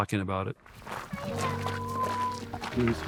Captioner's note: gravel crunching; gentle music